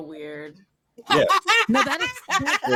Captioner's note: laughter